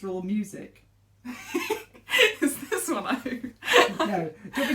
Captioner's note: laughing